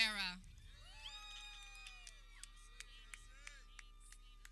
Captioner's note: people cheering